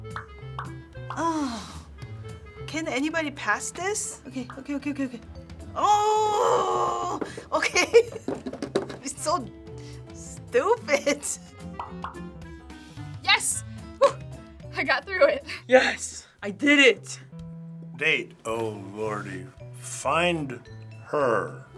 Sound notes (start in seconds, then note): 0.0 popping; 5.6 grumbling; 8.0 laughing; 11.7 popping